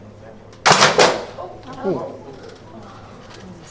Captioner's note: clank, gasps